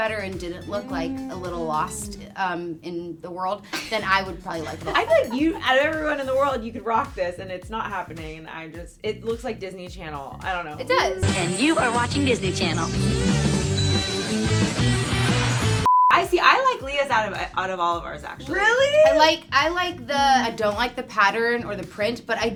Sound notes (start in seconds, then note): 3.7 laughs; 14.6 music plays; 15.8 beep